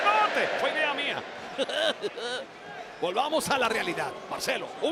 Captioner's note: laugh